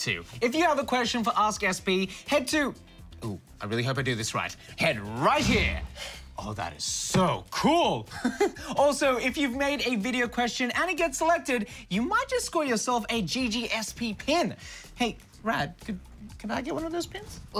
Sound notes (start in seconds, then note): 8.1 chuckles